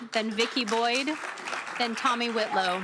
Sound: applause

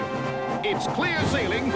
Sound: whoosh

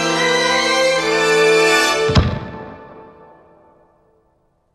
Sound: uplifting music; air whooshing

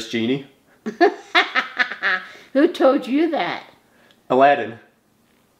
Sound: laughs

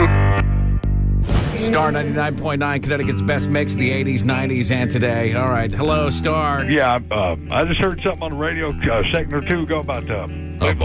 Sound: on phone; thick southern accent

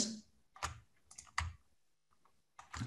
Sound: computer mouse clicking; computer keyboard keys tapping

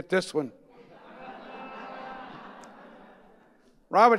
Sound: audience laughing

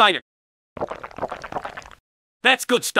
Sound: drinking

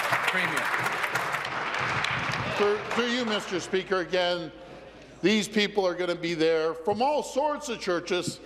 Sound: applause

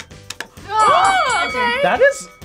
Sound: bell rings

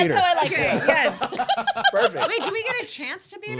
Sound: laughing

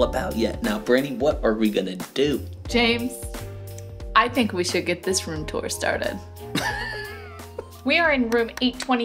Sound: laughs

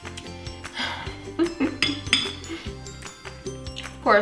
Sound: laughs

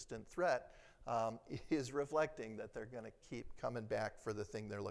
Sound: chuckles

